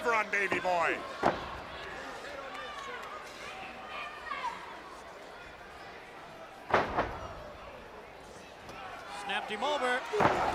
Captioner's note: crowd chatter